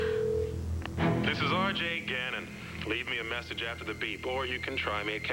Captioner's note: phone rings